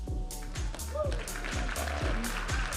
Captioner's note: audience applauding and cheering